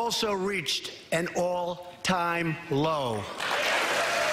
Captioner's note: applause